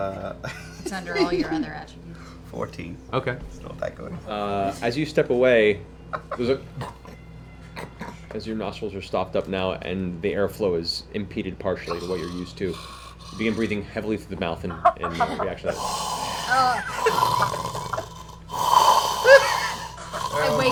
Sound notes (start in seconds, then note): 6.7 snort; 17.9 loud snoring